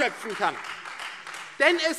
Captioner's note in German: Beifall Freie Demokraten